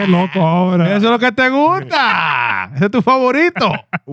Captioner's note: speaking In Foreign Language